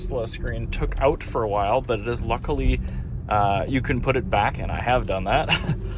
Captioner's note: laughs